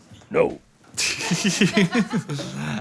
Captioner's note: "No" soundbite plays; Phil and crew laugh